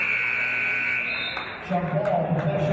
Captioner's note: buzzer; referee's whistle